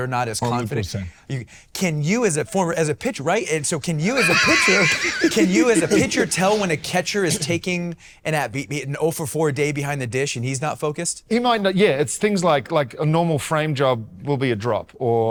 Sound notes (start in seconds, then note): 4.1 all laughing